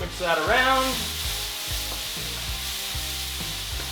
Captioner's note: loud sizzling